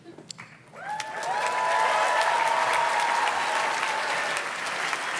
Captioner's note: audience cheers and claps